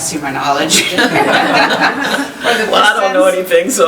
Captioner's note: laughing; chuckles